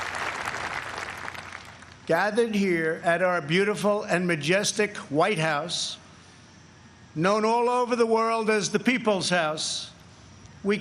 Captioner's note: applause